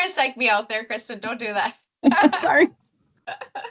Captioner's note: chuckles